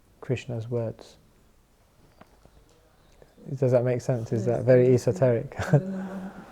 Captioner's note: chuckles